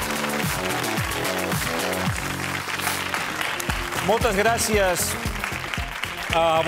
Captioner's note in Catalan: aplaudiments